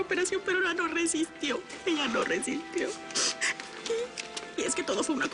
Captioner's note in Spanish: Solloza